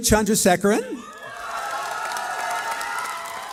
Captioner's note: cheering